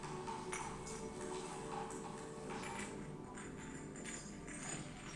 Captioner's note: glass clinking